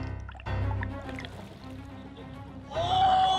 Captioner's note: water sounds; suspenseful music